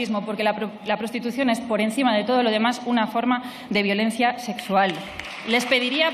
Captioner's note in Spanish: Aplausos